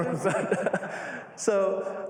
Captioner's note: laughter